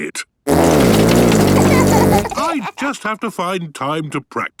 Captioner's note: laughter